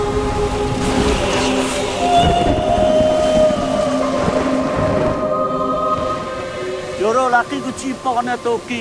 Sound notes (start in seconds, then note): 0.1 water rushing; 2.4 thunder rumbling; 3.4 water splattering